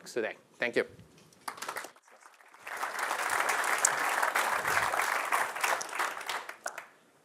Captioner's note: applause